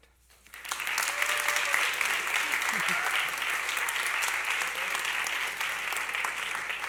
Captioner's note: applause